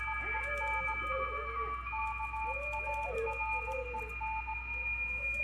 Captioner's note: indiscernible whimpering